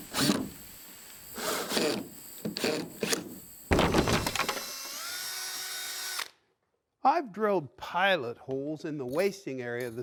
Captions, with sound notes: (falling wood clunks) (drill whirs) - I've drilled pilot holes in the wasting area